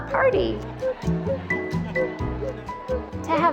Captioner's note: indistinct chatter and laughter